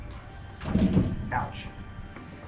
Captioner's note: hits door